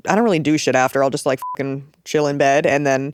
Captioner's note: beep